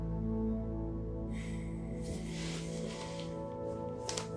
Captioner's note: Jack sighs; somber music